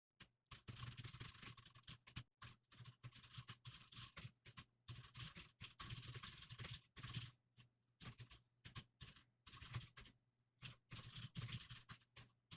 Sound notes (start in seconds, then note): 0.5 typing sounds